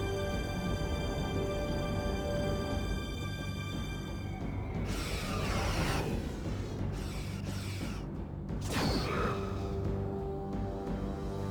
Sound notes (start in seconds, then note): 4.6 growling; 7.0 tense music